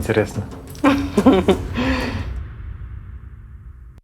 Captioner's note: laughs